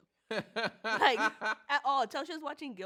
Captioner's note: laughs